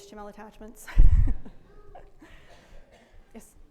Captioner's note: laughs